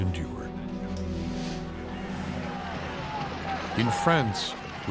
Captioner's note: crowd jeering